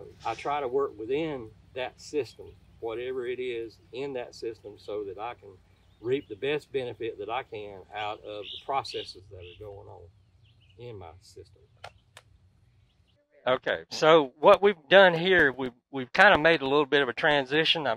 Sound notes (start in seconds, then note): 8.8 birds twittering; 11.8 hands tap